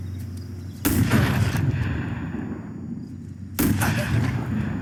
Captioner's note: crickets chirping; gunshot booming